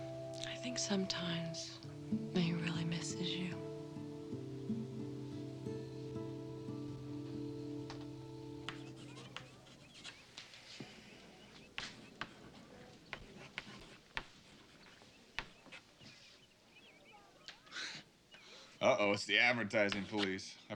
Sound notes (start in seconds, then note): 11.6 chalk clacking on board; 17.6 chuckles